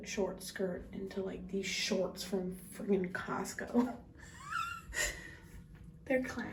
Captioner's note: wheezes